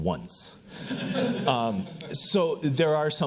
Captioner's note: audience laughs